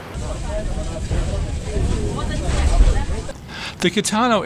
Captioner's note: people chattering